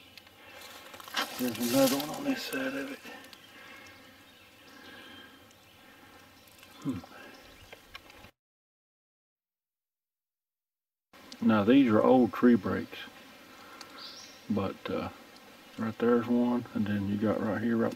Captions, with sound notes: Here's another one on this side of it. (birds chirping) Now these are old tree breaks. But right, there's one and then you got right here